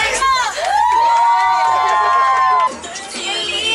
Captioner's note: applause